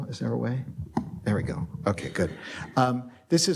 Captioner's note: plastic clicks